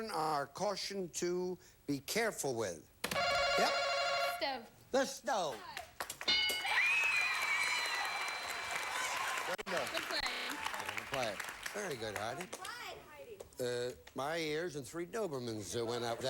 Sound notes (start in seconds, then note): 6.6 audience applauding